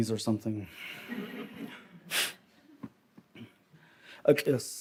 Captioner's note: audience laughs